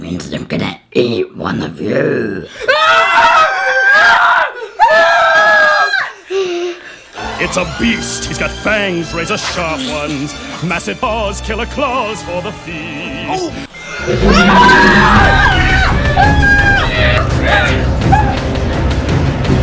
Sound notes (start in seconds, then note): 2.6 screaming; 13.8 growling; 13.8 screaming; 15.7 intense suspenseful music